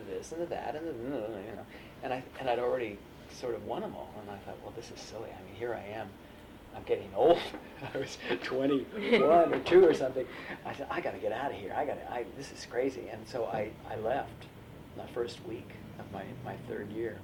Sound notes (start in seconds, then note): 8.8 laughs